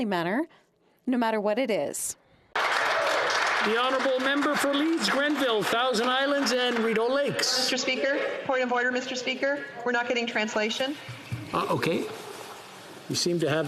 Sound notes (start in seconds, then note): 6.7 some Applause